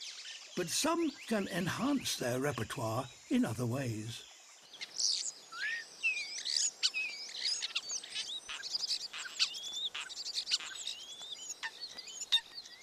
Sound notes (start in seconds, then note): 4.6 chirps and sings